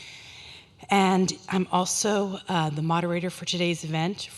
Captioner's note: none